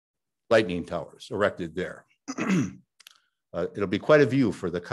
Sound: clears throat

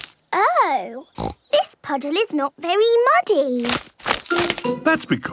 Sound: snorting

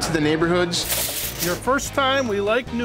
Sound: crackling

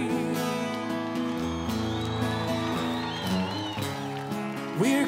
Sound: audience cheers

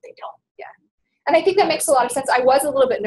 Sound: voiceover

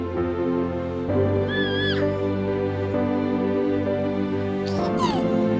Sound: child laughs

